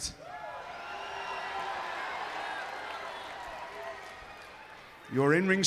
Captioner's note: crowd cheering